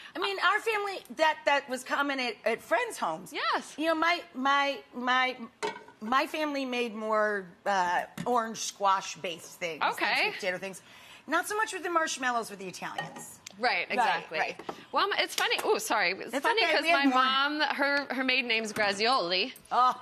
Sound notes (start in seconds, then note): 4.7 stutters